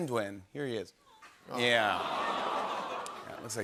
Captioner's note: audience awws